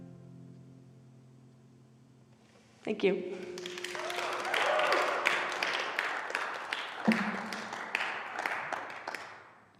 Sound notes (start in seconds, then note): 3.4 applause